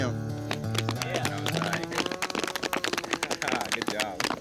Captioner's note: applause